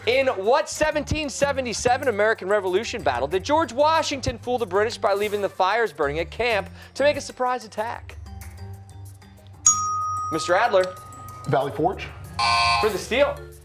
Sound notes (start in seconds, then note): none